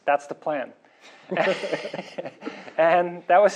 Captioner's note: laughter